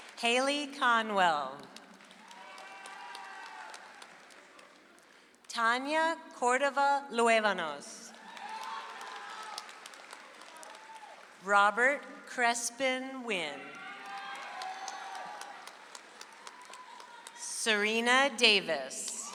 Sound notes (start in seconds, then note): 0.0 audience applauds; 1.6 audience applauds; 8.1 audience applauds; 13.7 audience applauds; 19.1 audience applauds